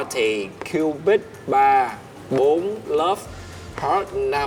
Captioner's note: counting